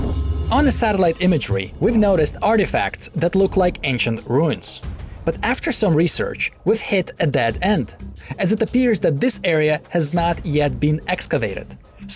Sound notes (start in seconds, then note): none